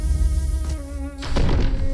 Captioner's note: whackk; panicking swan music